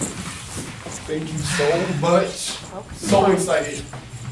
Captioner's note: Davina sighing